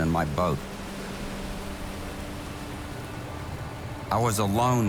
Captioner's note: boat engine hums